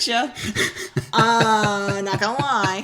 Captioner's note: laughing